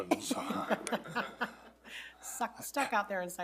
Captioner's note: board members laughing